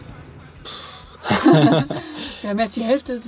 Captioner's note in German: lachen